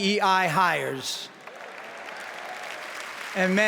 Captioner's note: applause